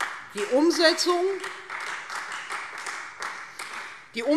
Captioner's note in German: Beifall Freie Demokraten